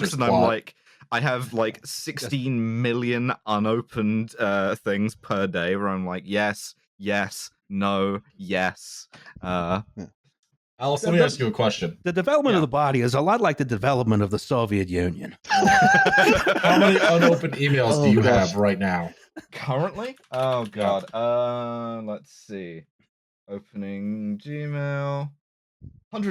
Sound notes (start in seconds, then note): 15.4 all laughing; 20.3 keys tapping